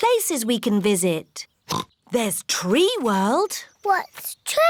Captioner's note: oinks